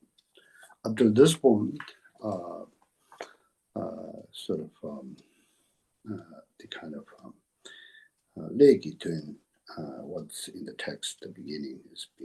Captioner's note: tibetan